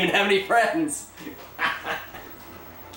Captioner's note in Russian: Смех